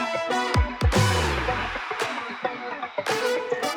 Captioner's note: crowd cheers